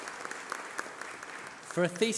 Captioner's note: applause